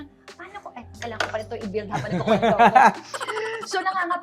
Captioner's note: laughs